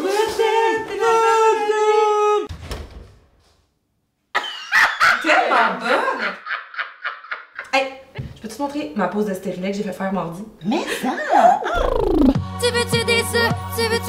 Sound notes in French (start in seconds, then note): 2.5 La porte ferme; 4.4 Rire diabolique